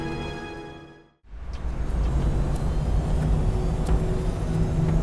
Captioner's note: plane engine roars